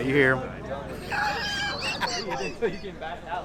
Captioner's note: laughing